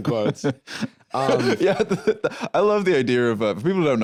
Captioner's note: laughs